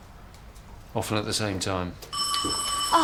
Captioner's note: doorbell